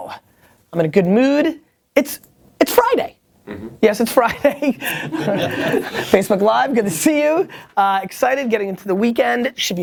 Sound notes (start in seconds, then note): 2.9 voiceover; 4.4 people laugh